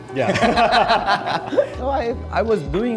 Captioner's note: both laughing